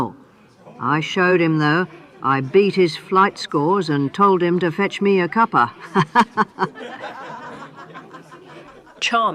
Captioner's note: tour group laughs with her